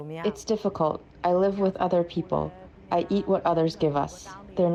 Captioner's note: through translator